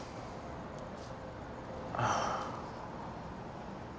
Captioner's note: sigh